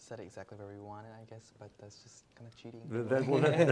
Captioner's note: laughter